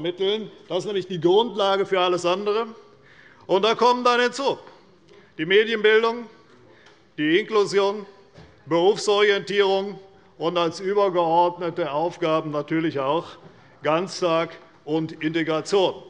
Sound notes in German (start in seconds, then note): none